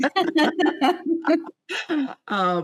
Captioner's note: laughing